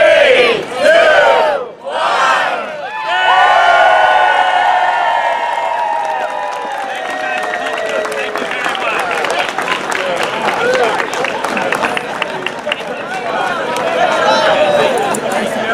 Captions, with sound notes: >>:Three, two, one... (CHEERING)